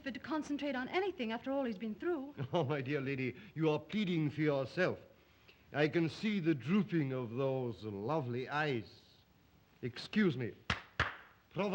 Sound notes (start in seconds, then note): 2.4 chuckles; 10.6 claps hands; 11.5 Zaroff speaks Russian